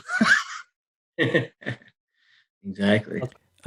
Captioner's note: laughing